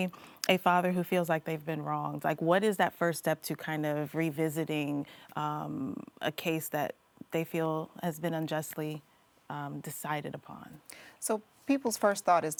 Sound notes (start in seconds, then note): none